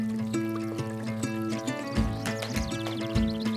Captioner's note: stream gently rushing